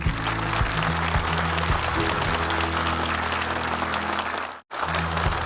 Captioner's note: upbeat music; audience clapping